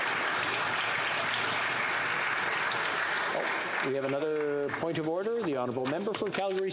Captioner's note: applause